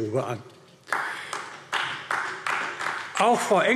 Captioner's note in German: Beifall AfD